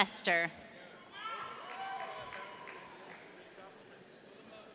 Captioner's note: audience cheering